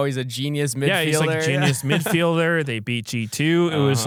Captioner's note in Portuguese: risos